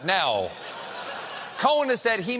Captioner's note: laughter